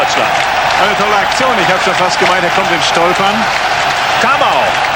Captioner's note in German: jubel